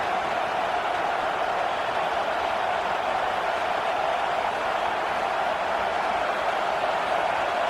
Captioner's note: crowd Noises